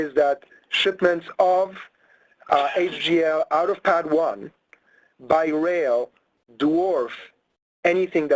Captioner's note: person sneezes